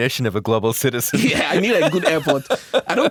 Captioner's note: laughs